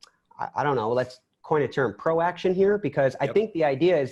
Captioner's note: sarcasm